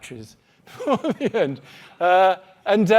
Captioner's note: laughing